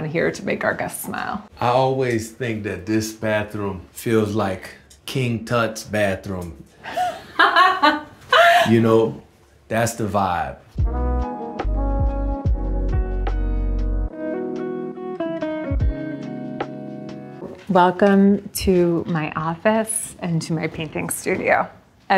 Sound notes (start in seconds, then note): 6.8 laughs; 10.6 mellow music